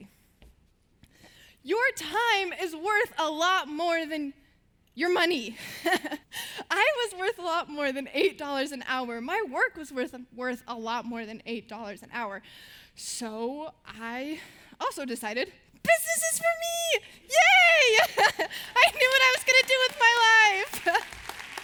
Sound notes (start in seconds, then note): 17.7 laughing